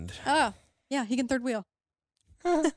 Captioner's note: chuckles